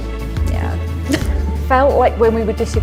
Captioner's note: laughs